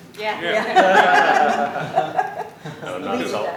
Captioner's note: laughter